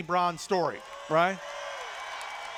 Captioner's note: cheers